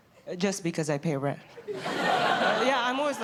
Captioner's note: laughter